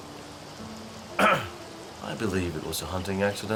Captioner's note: clears throat